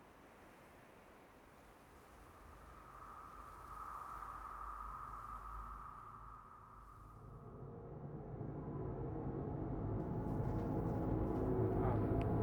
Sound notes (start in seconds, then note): 3.7 eerie wind; 7.4 dark droning music